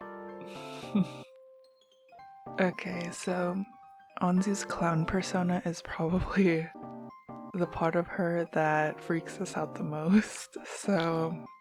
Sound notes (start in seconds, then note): 0.6 laughs